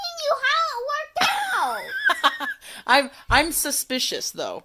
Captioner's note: laughs